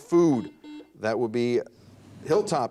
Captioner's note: buzzer dings